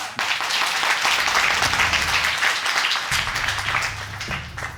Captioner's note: audience clapping